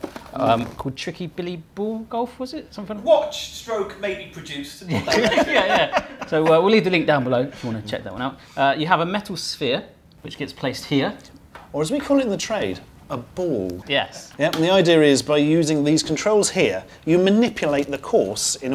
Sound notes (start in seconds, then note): 4.8 joint laughter